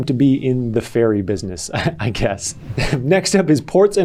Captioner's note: laughs